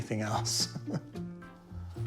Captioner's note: chuckles